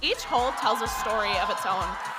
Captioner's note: audience cheering